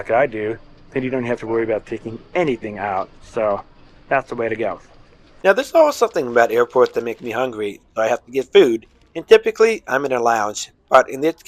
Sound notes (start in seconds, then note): 5.2 voiceover